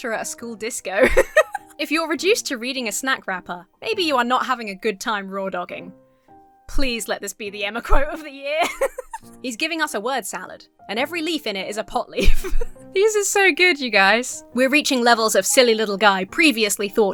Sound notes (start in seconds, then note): 1.0 laughs; 8.6 laughs; 12.2 giggles